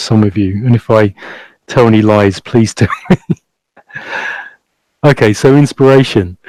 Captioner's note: chuckles quietly